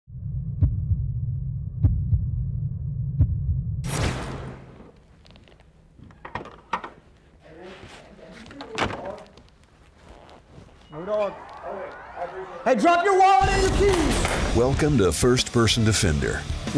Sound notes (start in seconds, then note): 0.2 deep foreboding music; 6.3 car trunk opens